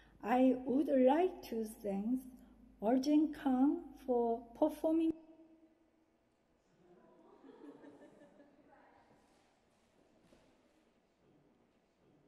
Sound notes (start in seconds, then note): 7.4 audience laughing